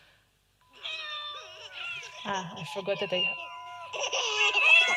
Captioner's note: different sounds from the computer